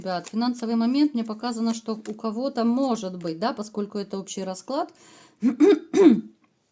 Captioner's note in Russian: откашливается